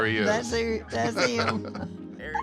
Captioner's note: laughs